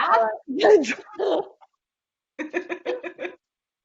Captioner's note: laughing